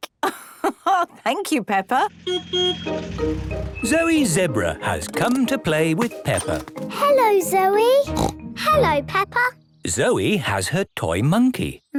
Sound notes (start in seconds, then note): 0.3 laugh; 2.3 honking; 8.0 snort